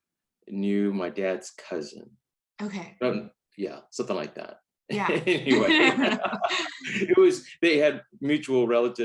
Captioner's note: both laugh